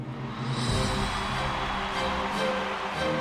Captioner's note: cheering